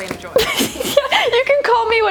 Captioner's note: laughing